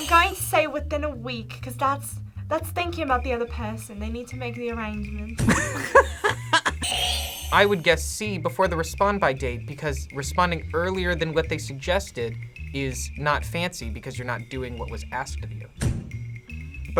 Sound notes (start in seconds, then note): 0.2 accented; 5.5 laughs; 6.9 buzzer rings